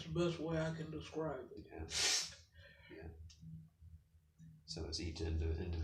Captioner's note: sniffles